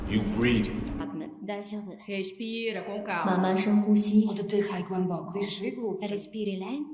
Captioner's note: speaking in foreign languages